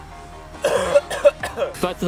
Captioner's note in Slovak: kašeľ a iné podiv... ok ok ok